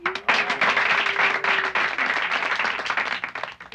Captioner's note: applauding